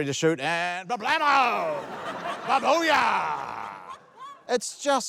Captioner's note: laughter